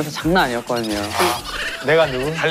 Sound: laughs

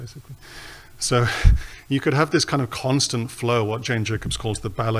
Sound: chuckles

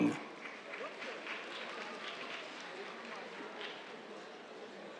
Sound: applause

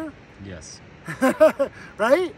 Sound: laughs

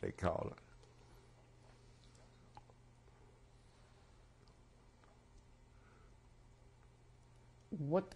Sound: pauses for 7 seconds

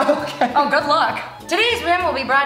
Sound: laughs

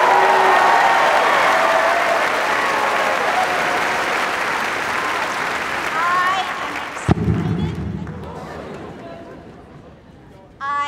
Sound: cheers and applause

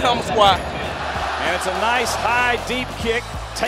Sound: crowd noise

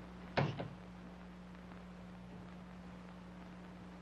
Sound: door slamming

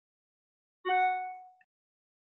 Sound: phone notification

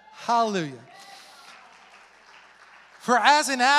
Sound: congregation applauds

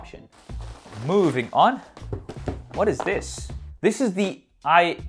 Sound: packaging rustling

